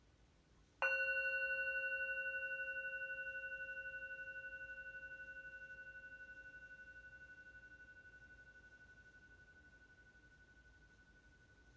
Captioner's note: meditation bell rings